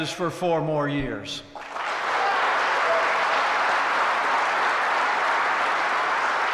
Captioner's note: applause